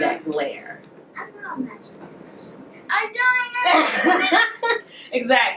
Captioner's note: students talking in background; laughing